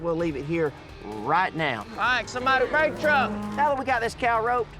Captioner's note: shouting